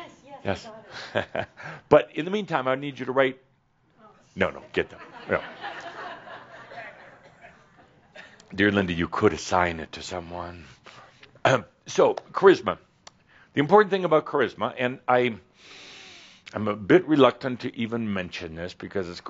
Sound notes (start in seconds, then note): 3.8 laughter